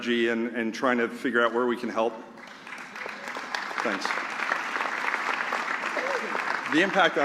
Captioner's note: applause